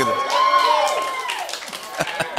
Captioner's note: cheers and applause; laughs